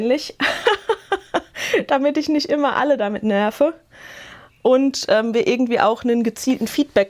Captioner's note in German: Gelächter